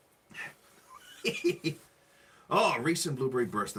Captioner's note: laughing